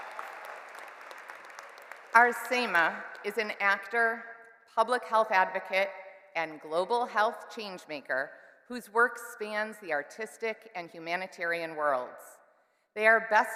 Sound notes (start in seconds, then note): 2.6 cheers and Applause